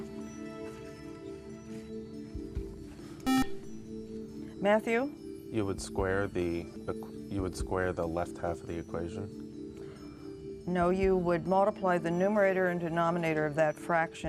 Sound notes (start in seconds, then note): 3.2 beep